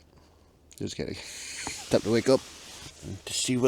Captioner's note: chuckles